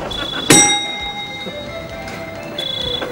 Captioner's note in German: Klingeln